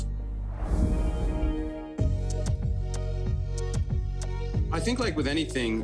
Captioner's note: image whooshing; upbeat instrumental music